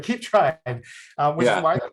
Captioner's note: laughs